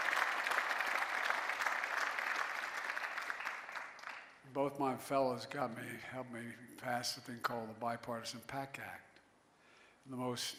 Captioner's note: cheering and applause